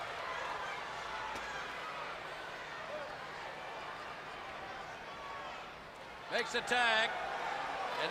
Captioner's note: crowd chatter